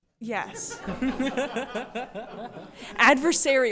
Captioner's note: attendees laughing